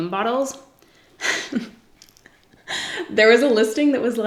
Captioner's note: giggles